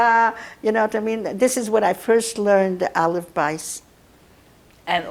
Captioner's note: yiddish; yiddish